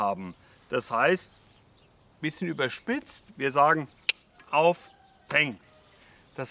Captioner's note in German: schnalzt